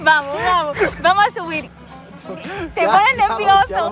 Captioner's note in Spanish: risas